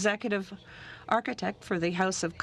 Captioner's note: speaking french